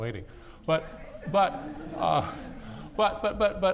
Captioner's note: laughing